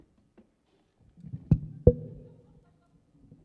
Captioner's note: mic bumps